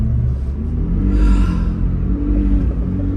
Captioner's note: sighing